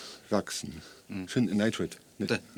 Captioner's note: speaking English